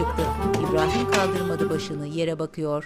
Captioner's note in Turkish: Kapı kapanma sesi